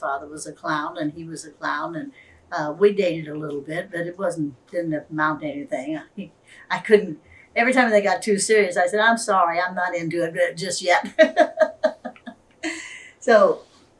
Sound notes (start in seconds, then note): 11.1 laughs